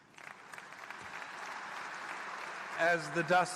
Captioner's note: applause